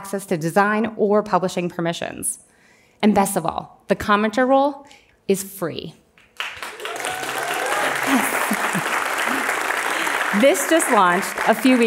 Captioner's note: applause